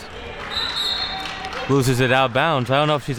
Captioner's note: whistle being blown